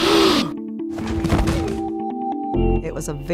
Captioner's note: gasps; thuds